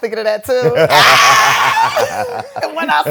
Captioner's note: laughing